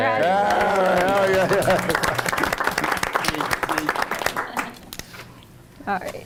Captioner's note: group cheering; group applauding